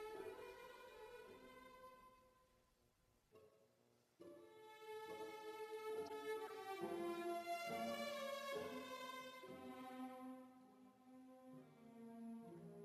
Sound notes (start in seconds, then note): none